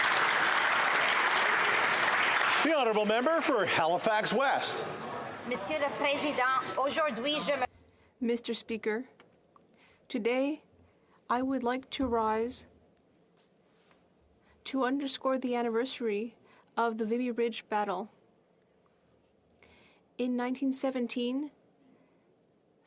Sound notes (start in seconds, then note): 5.2 applause